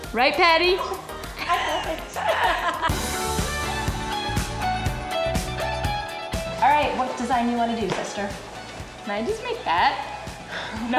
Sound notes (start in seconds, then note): 2.5 laughing; 3.3 exciting synth music